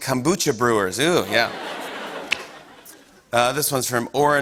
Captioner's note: laughter